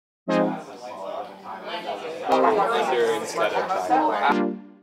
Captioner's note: electronic music; students talk